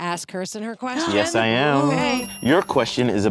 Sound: gasps

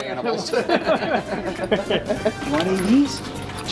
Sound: everyone laughs

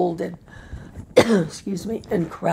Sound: coughs

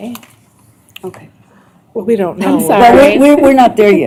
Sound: indistinct chatter

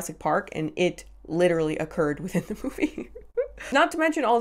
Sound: laughs

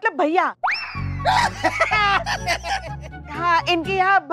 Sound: laughing

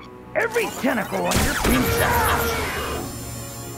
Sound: grunting

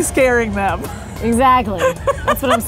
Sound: laughing

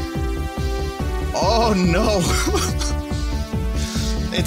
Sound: chuckles

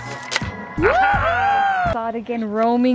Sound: music; cheering

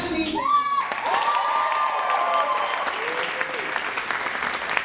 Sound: cheering and applauding

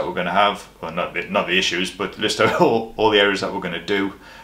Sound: chuckles

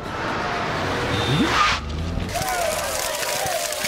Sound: car skidding to stop

